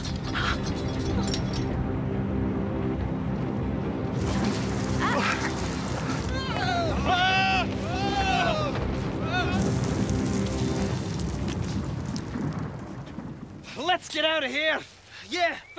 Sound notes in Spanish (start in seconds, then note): 0.0 movimiento; 6.2 gritos